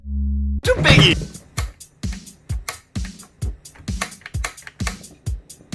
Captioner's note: chuckles; click